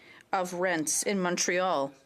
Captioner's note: speaking French